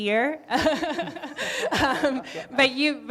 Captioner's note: all laughing